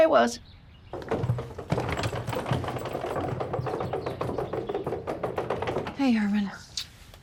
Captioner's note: rolling luggage; blows a kiss